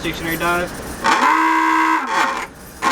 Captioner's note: horn sounding